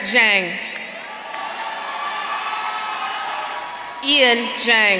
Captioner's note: audience cheering